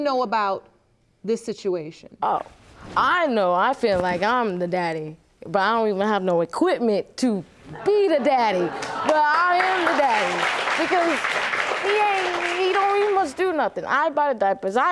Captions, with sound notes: And so what do you know about this situation? Oh, I know I feel like I'm the daddy, but I don't even have no equipment to be the daddy, (AUDIENCE LAUGHS) but I am the daddy, because he ain't... He don't even much do nothing.